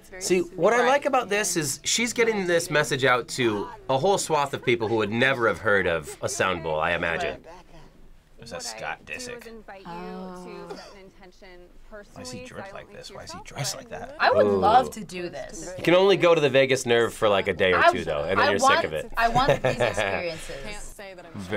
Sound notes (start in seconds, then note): 18.2 laughs